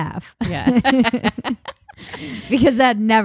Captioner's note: both laughing